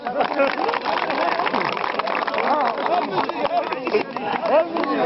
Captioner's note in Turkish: Alkışlar